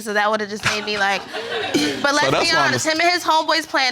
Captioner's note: all laughing